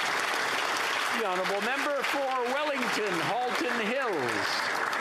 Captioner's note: applause